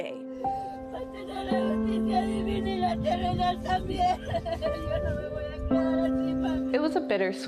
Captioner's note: mother sobs in native language